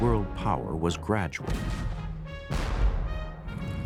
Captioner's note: cannons firing